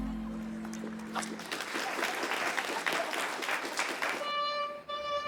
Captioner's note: audience applauding; gentle violin music